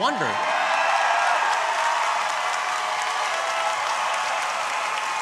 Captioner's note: audience cheering